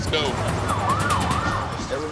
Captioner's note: sirens